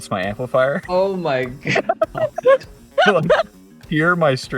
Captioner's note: laughing and gasps